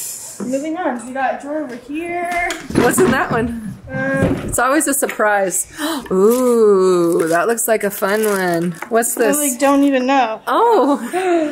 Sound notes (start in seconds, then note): 5.7 gasps; 10.8 chuckles